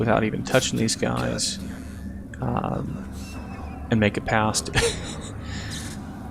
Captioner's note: laughing